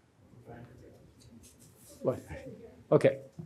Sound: group chattering

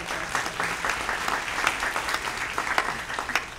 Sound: applause

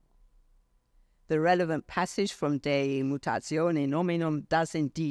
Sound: speaks foreign language

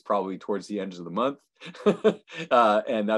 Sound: laughing

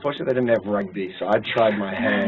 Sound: laugh

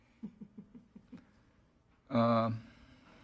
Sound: laughter

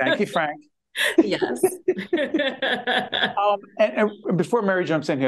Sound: both laughing

